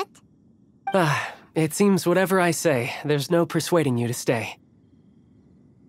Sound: sigh

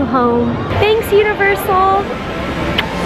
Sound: kiss

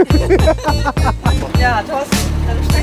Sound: laughter

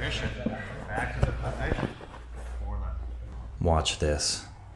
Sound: spectators chatter

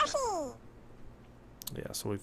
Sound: Yoshi noise

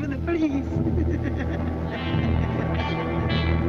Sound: continues laughing

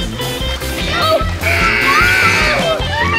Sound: buzzer

